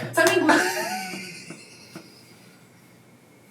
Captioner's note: laughing